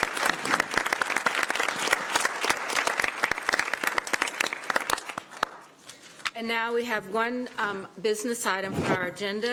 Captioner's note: applause